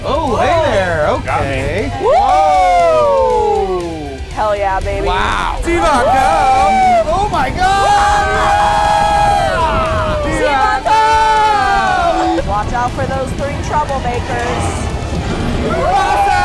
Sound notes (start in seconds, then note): 2.0 in Unison; 8.1 all screaming; 10.8 in Unison